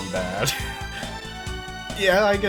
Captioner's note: chuckles